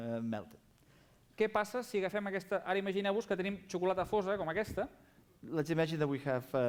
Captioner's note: non-english speech